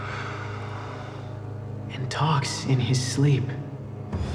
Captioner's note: Grover voice